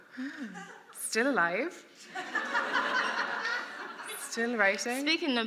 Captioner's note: laughter